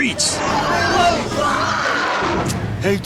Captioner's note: screaming